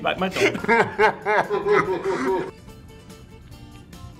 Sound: laughing

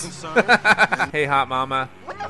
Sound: laughing

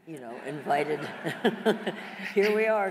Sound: laughing

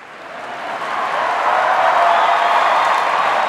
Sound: cheering

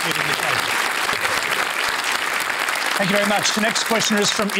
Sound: applause

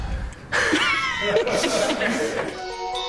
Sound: all giggling

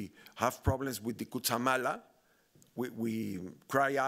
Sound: speaking Spanish

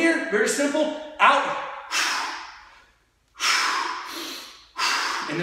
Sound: exhaling

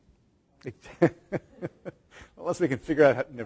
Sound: laughter

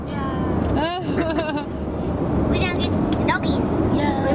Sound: laughs

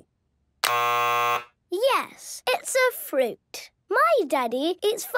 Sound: buzzes

